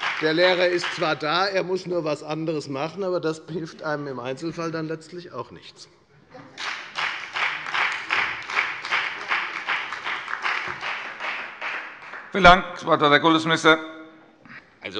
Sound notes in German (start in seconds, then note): 6.5 Beifall bei der FDP und bei Abgeordneten der SPD